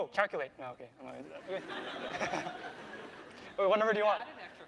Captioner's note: laughter